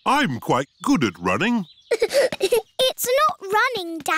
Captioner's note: giggling